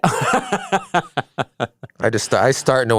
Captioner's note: laughs